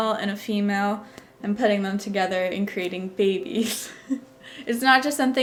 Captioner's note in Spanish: ríe